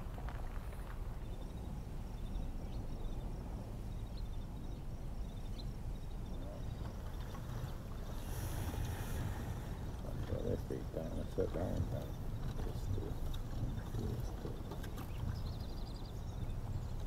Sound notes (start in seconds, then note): 1.6 cicadas; 10.4 quiet chatter